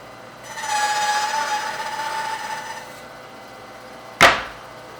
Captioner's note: tool squealing